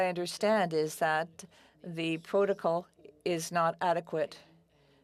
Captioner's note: speaking French